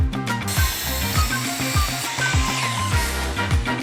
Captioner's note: saw whirring